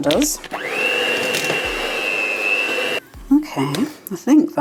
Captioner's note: cake mixer whirring